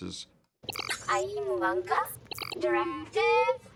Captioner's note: inquiring in foreign language